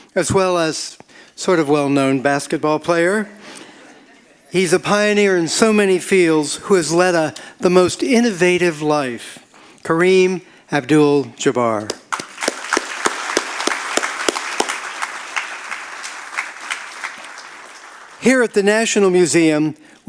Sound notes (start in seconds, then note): 3.1 audience laughing; 11.8 audience applauding